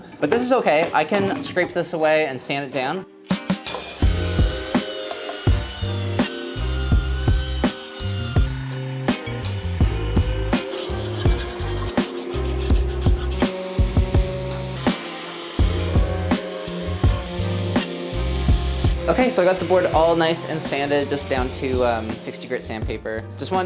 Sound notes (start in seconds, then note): 3.6 mellow music; 3.6 sander buzzing; 11.2 pencil scratching; 14.1 sander buzzing